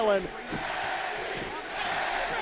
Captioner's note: fans chanting